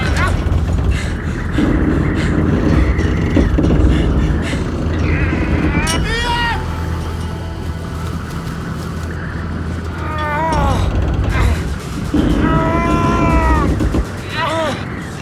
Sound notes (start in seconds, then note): 12.1 iain groans